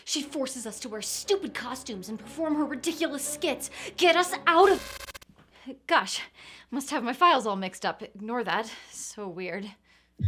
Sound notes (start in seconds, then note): 4.6 static crackling